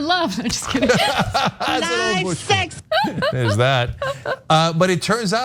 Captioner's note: laugh